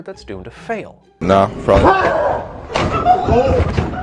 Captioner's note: roaring